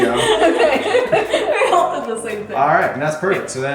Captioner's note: laughing